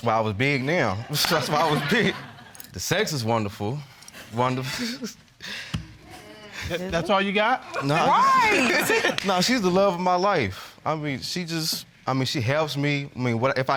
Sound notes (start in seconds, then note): 5.3 chuckles